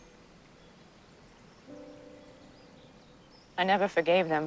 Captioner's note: none